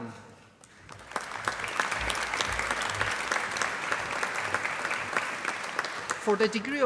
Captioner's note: applause